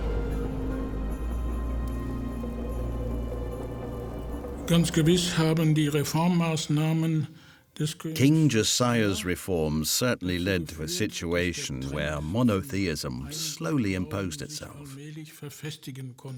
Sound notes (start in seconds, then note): 4.4 speaking German